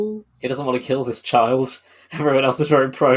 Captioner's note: laughing